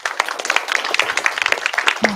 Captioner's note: applause